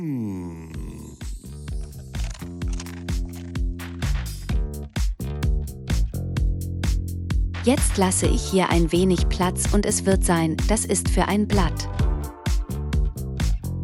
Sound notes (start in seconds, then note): 2.2 leaves crunching; 2.3 upbeat music